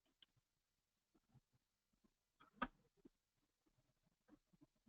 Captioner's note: pause